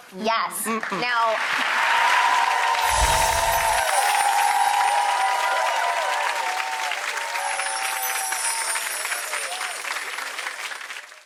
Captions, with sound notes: Yes. Mmm mmm. Now... (applauding) (chiming) (applauding) (chiming)